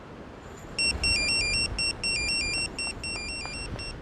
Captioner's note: phone chiming; door clicking; footsteps thumping